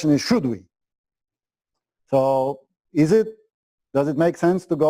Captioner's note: pause